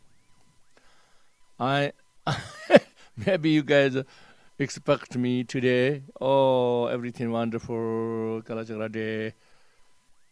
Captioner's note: laughs